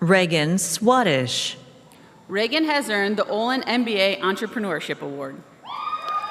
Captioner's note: applause